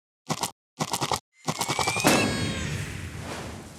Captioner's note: popping